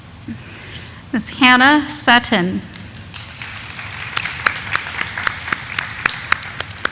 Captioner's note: audience applauding